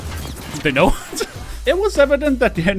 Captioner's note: laughter